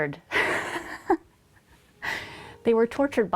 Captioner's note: laughs